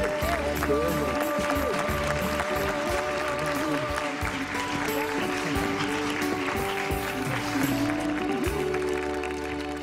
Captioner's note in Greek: χειροκρότημα